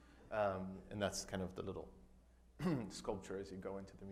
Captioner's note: clears throat